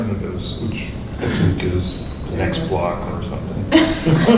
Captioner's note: coughing drowns out speaker